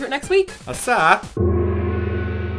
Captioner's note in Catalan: so d'èxit